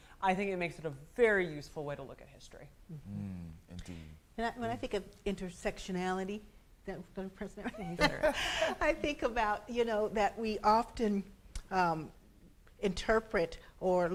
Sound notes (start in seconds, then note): 7.7 laughs